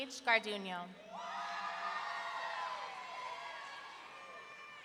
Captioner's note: audience cheering